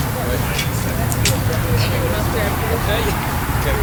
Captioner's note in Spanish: charla grupal